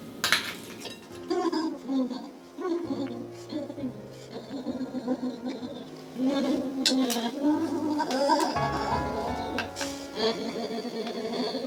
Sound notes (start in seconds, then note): 1.9 humming opera in gospel